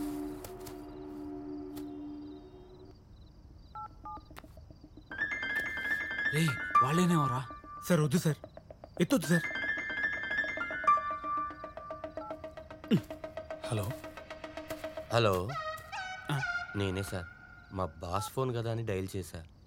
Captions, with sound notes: (Phone rings) Hey, I guess it's them. No, sir, don't take the call. (Phone rings) Hello... Hello... It's me, sir. I called it because it's my boss's phone.